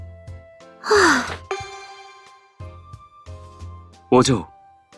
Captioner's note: sigh